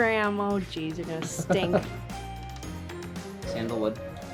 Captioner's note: laughing